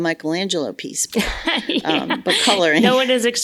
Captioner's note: laughs